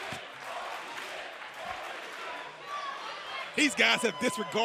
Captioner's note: crowd cheering